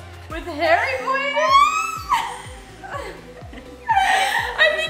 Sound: laughing

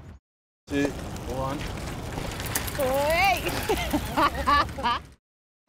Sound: laughter

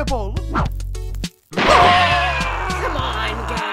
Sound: Team 5 members scream in pain

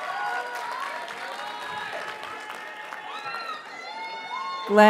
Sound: audience cheers and applauds

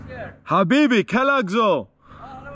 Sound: speaking Arabic

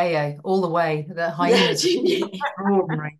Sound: everybody laughing

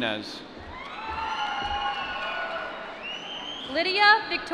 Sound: applause

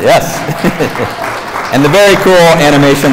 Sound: applause

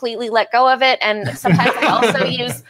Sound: laughs

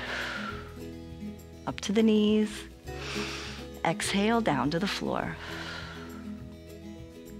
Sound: exhales; exhales

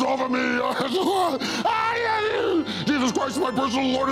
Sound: Satan groaning

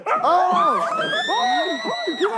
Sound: screaming

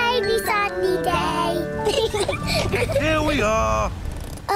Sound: both laugh

